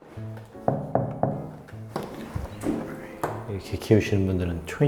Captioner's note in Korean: 똑똑똑